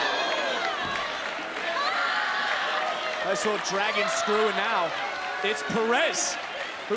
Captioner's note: applause